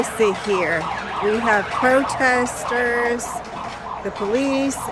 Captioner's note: protesters chanting